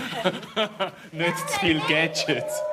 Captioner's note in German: Lachend